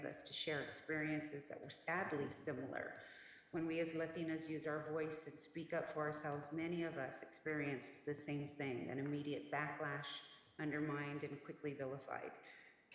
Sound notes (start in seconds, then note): none